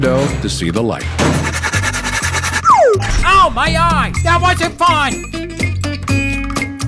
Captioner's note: sawing, then heavy thud